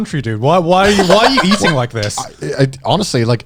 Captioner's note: chuckling